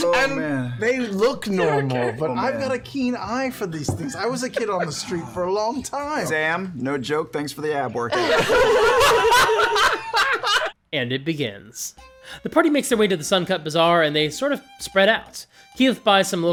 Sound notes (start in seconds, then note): 8.1 laughter